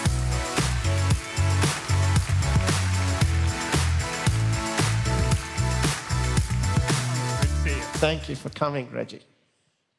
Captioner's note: applause